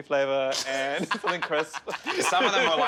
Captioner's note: laughing